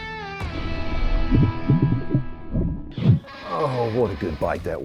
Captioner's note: water bubbling